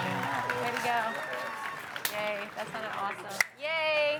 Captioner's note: audience cheering; audience applauding